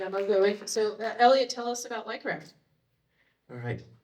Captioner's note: applause